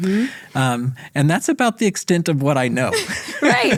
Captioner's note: laughs